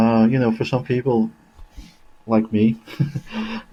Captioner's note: laughing